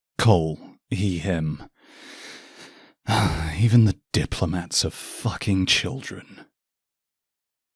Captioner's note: sighs